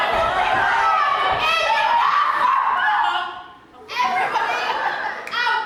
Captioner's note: audience laughs